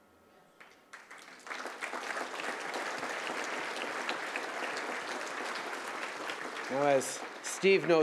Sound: applause

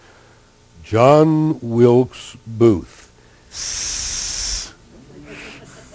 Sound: ssssssssss

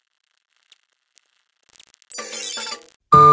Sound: silence

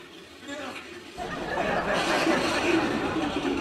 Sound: audience laughing

